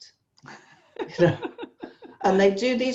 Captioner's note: laughs